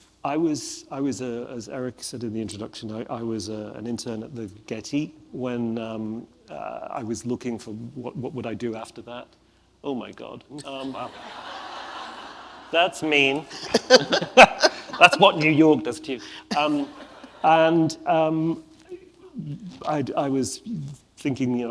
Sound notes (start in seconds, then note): 11.0 audience laughs